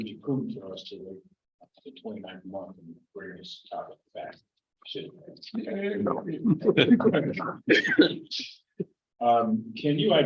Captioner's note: laughter